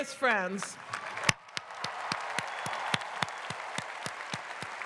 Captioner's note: clapping